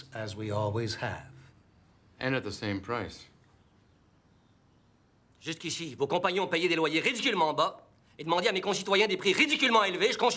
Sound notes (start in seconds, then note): 5.5 Rene speaking in foreign language